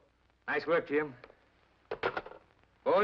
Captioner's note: phone sets down